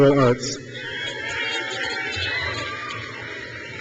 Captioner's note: crowd cheers